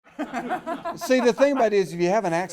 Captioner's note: laughing